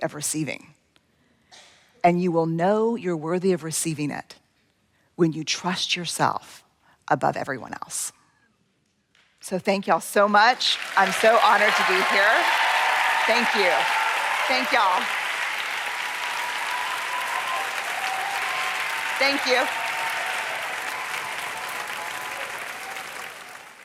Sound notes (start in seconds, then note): 14.4 cheers and applause